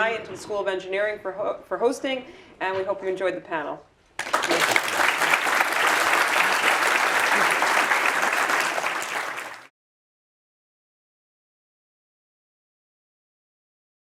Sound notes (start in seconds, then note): 9.5 applause